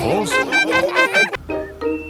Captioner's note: laughing